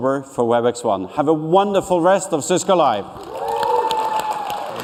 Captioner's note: cheers and applause